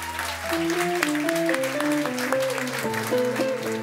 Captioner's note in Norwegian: Applaus